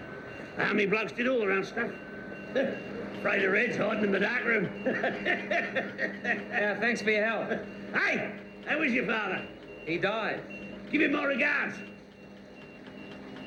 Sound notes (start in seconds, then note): 4.4 laughing